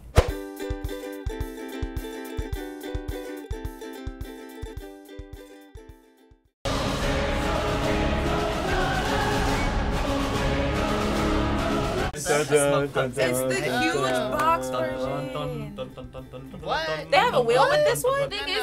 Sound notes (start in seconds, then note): 0.3 light folk music; 6.6 dramatic choral music; 12.1 overlapping chatter